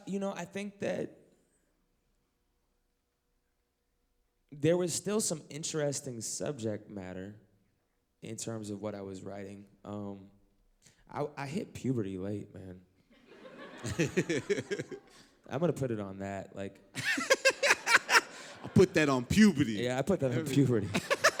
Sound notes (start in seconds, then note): 13.1 laughter; 17.0 laugh; 20.2 laughter